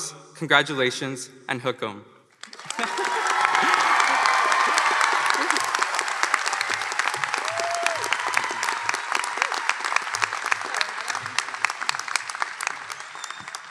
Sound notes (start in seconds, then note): 2.4 applause and cheers